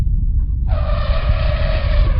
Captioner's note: distant rumbling; mammoth trumpets